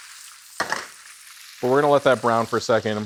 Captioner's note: wok rattles